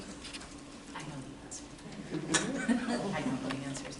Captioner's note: laughter